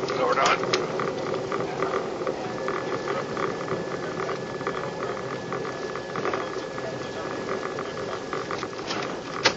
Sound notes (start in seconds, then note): 1.8 sound of distant chatter